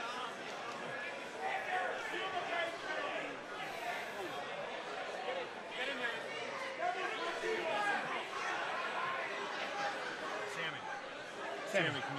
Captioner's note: crowd chatter